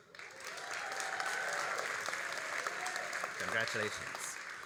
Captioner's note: all applauding and cheering